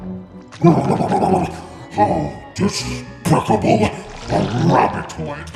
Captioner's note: grumbles